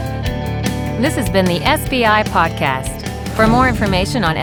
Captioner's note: voiceover